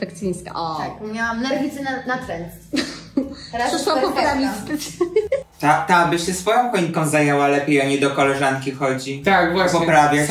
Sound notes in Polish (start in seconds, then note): 2.7 śmiech